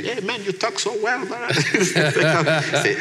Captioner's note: laughs